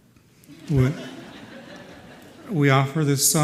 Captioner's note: laughter